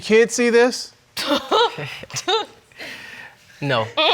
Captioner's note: laugh